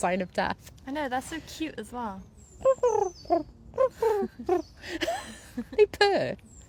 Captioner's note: makes the noise of doves